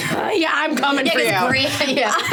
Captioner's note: laughing